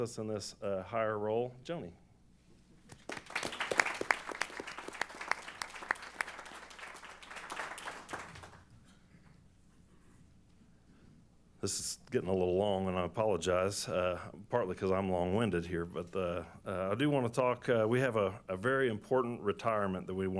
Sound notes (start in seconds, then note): 2.8 applause